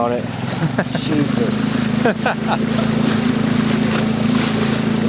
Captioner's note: laughing